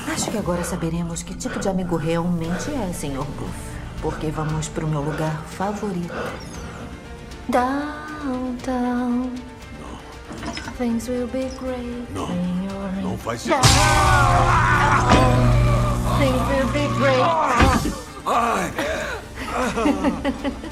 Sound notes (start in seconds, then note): 17.6 groaning; 17.9 breathing heavily; 19.1 chuckles